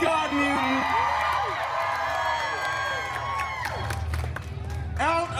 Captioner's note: guests cheering and applauding